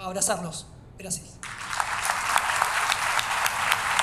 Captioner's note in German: Applaus